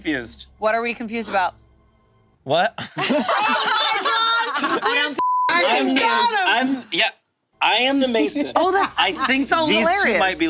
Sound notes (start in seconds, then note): 2.8 group laughing; 5.2 beep